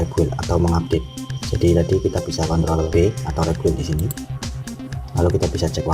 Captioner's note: click